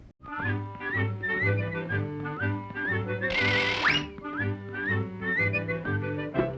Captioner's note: Felix whistling